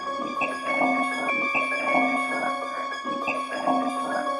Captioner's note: eerie chatter